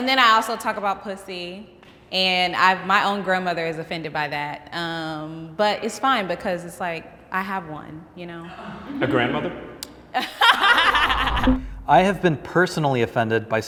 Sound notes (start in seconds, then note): 10.2 all laughing